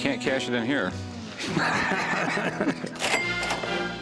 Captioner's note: laughter